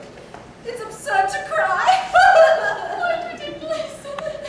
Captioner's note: forces a laugh